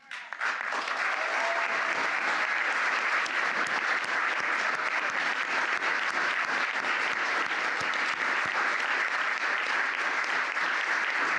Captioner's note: applause